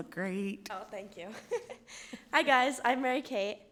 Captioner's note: laughing